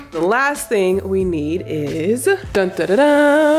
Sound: mimics surprise music

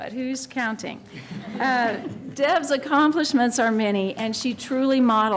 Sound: laughter

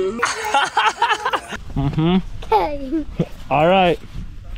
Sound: dad laughing

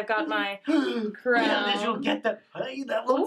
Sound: gasps

